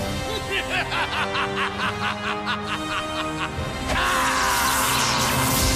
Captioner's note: maniacal Laughter